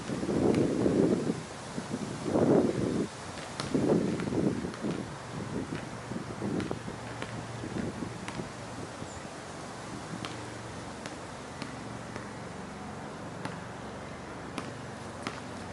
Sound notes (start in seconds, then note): 6.4 helicopter blades whirring; 6.5 basket ball tapping